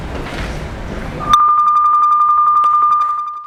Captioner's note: bells